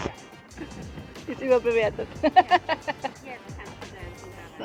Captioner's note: laugh